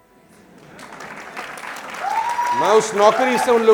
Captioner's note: clapping